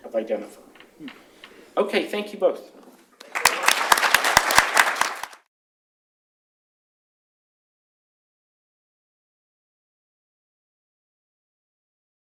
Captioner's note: applause